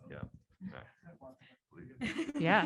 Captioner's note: laughs